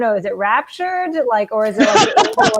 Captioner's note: laughing